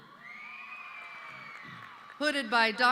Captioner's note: audience cheering